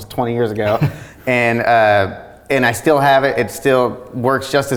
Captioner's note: laughs